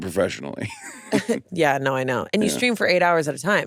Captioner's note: chuckles; laughs